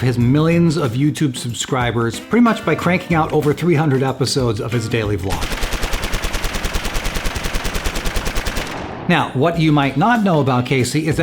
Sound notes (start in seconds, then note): 5.4 repetitive machine churning